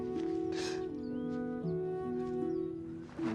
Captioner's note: sobs; sniffles